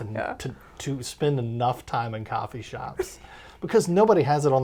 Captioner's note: laughs